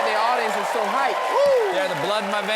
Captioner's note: cheers and applause